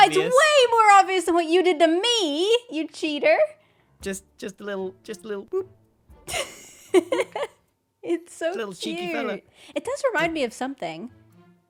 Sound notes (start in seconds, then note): 6.5 laughs